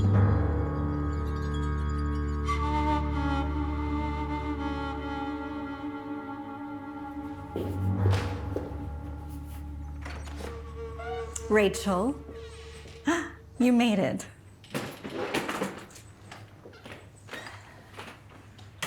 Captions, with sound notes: (heels clacking) (door opens) - Rachel, (gasps) you made it. (suitcase rolls)